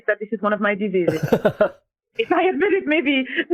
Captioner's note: laughing